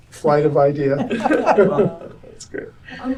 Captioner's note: laughter